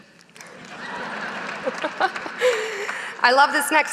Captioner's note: audience laughing